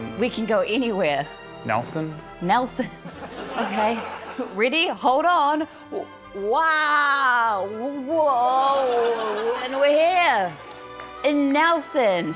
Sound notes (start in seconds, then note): 3.3 chuckles